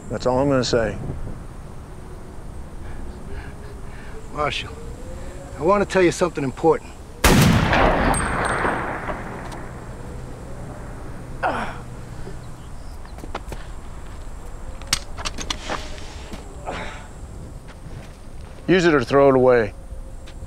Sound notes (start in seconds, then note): 7.2 gunshot; 10.0 moan